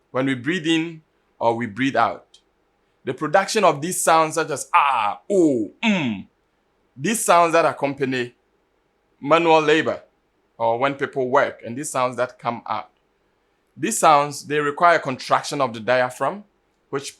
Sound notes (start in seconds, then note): 5.0 aah; 6.0 unh